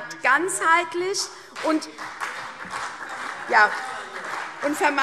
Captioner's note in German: Beifall : Und wir machen nichts, oder?